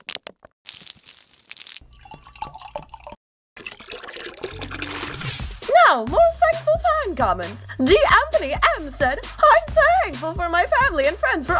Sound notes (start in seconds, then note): 0.7 crackling; 1.9 pouring